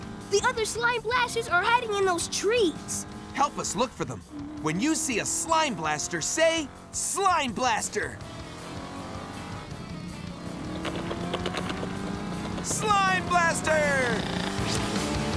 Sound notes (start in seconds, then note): none